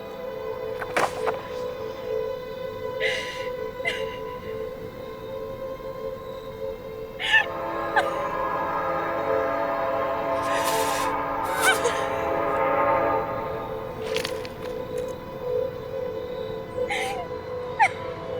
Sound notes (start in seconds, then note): 0.7 journal thudding; 2.8 sobbing; 7.4 train horn blaring